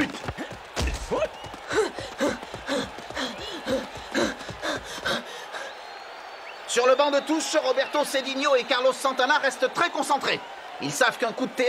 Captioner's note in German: beifall